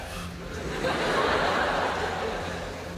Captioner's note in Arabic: ضحك